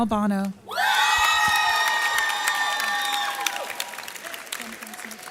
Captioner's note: audience cheers